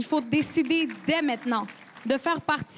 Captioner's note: crowd applauding